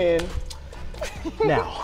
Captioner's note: hands slap